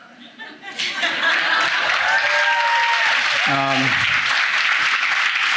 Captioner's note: audience laughing and clapping